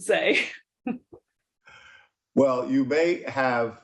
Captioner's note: laughing